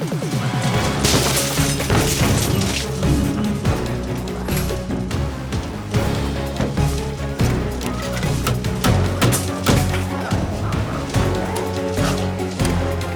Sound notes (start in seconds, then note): 0.9 intense music continues; 9.2 hammer banging